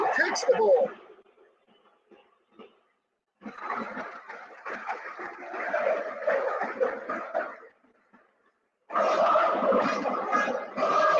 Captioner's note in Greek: Χειροκρότημα